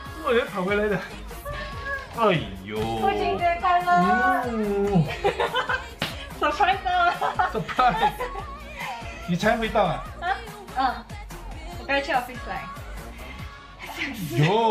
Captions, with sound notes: "Why did you suddenly come back!?" "Aiyo" "Happy Father's day!" *smack on the arm* "Are you surprised??" "Surprised!!" *laugh* "You just came back?" "Yeah, I went to the office just now"